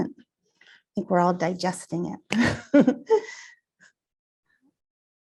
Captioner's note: laughs